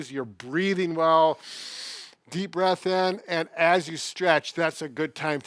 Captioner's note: inhales